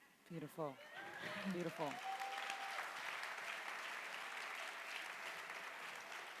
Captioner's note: audience applauding